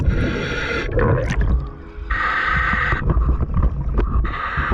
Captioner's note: heavy breathing